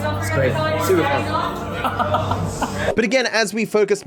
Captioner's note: bombastic laughs